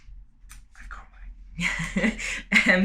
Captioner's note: whispering; laughter